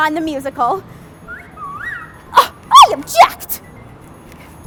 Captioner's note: Passerby wolf whistles at Elle